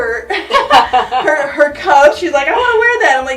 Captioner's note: both laugh